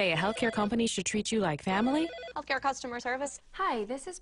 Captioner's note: phone rings